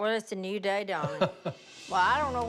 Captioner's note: laughs